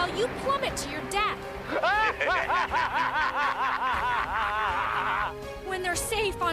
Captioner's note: laughing